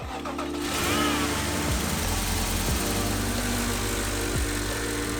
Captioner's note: car motor turns on